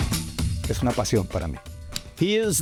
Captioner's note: speaking in Spanish